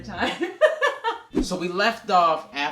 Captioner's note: laughs